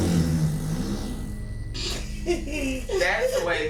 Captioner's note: loud flatulence; laughter